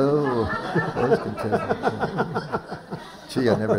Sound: laughter

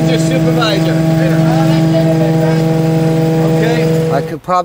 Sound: mechanical whirring

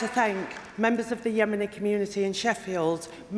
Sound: applause

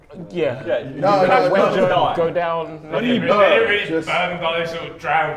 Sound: Sidemen chatting

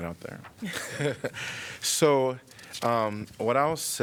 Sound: laughter

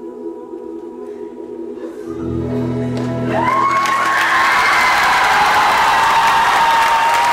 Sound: crying, cheering and applause

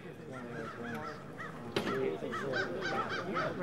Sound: sound of birds

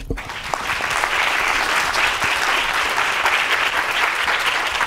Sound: audience applauds

